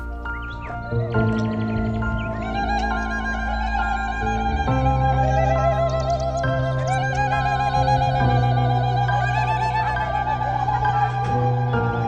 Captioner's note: crowd noise/Applause